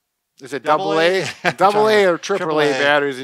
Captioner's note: laughs